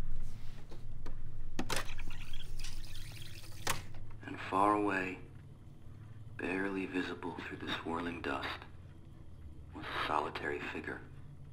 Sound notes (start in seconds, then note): 1.7 tape rewinds; 2.7 recording playing